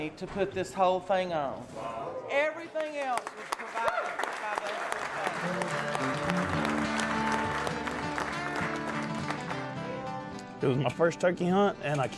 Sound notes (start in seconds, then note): 5.7 applauding; 7.7 exciting music